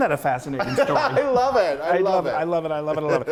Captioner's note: loud laughter